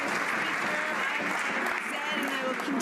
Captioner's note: some Applause